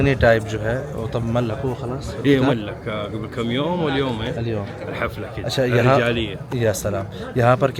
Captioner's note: Arabic